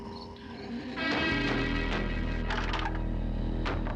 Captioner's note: wood clattering